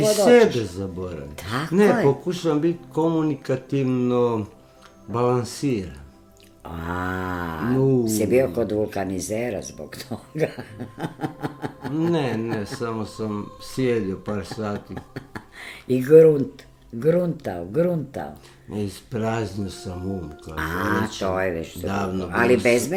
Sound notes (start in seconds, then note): 10.0 laughter; 15.4 laughter